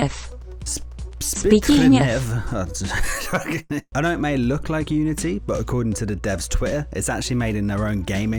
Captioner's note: laughs